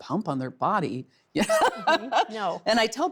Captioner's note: laughs